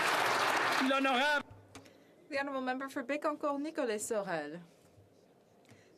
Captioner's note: some Applause